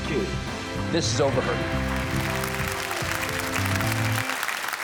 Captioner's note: audience clap